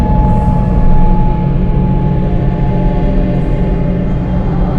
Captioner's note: whispers